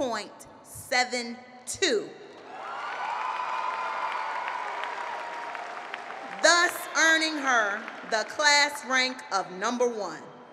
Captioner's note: applause